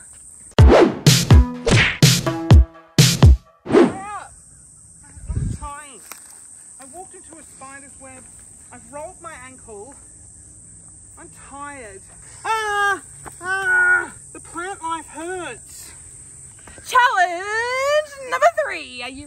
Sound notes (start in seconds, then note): 0.6 upbeat music; 12.7 shouting